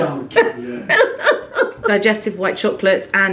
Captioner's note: laughing